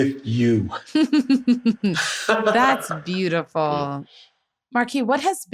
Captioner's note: laughter